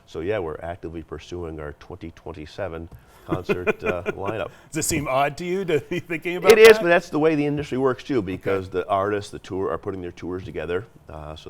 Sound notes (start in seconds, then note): 3.2 chuckles